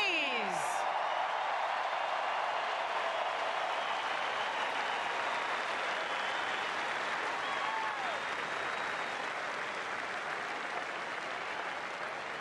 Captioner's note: applause; cheers and Applause